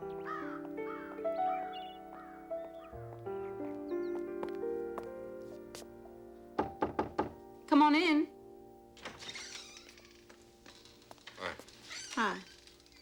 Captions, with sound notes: [KNOCKS AT DOOR] Come on in. -Hi. -Hi.